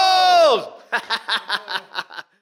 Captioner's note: laughing